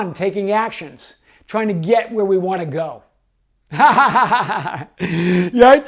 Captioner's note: laughs